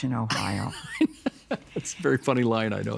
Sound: laughing

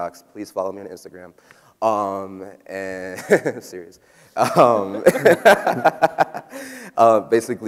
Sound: laughs

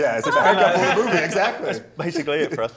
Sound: laughs

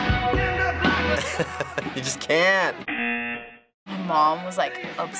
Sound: buzzer

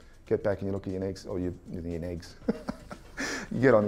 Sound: laughs

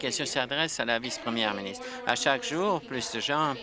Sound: applause

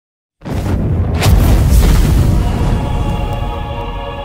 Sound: fiery explosion

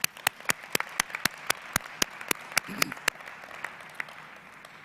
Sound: applause

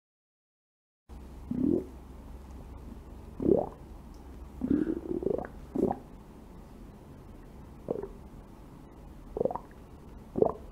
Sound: sound of croaking

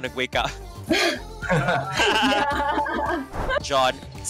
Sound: laughs

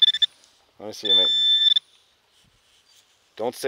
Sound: pointer pings

